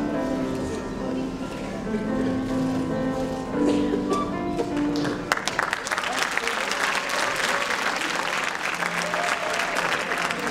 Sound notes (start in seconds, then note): 4.8 applause